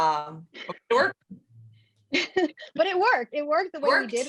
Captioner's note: laughs